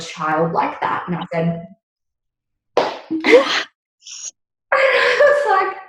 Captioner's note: thigh slap